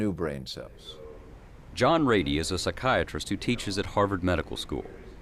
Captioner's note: voiceover